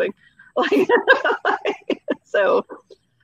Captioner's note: laughing